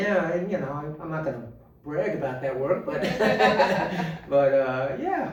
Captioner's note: laughing